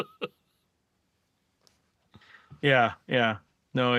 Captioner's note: laughing